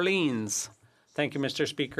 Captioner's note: speaking French